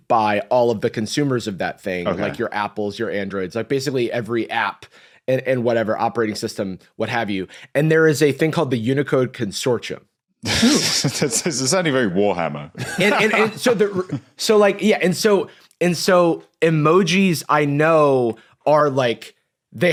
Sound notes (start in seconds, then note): 10.4 snickers; 12.8 laughs